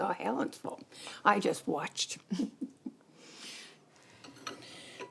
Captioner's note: chuckles